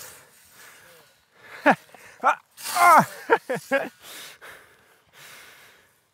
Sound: laughing

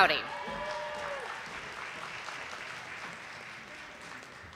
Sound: audience applauding

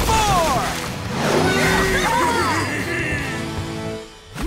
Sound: cheering

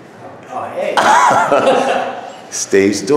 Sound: laughing

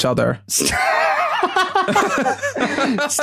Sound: wheezing laughter

